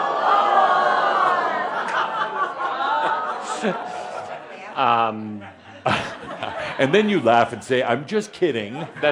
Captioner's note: audience responds “Ohhhhhh”